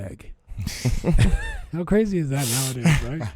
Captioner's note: laughing